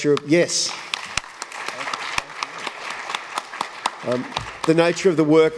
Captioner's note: applause